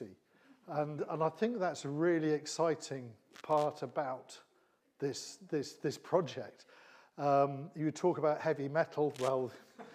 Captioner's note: laughing